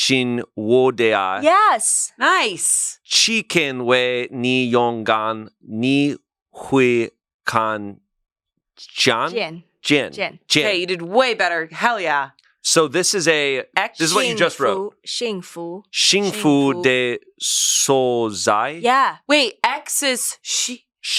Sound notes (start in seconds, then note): 3.3 speaks foreign language; 9.9 speaks foreign language; 15.3 speaks foreign language